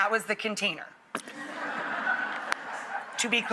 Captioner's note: audience laughs